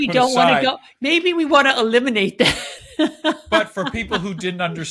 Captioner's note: chuckles